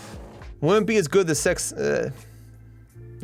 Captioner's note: stammers